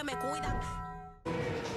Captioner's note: bell tolls